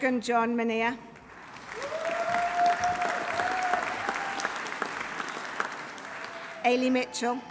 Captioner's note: audience applauding; audience cheering